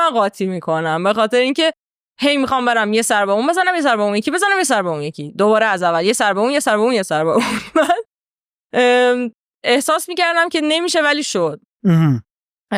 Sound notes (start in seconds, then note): 7.8 laughs